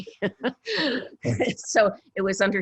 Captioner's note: laughs